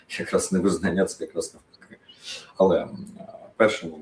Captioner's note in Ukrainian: сопіння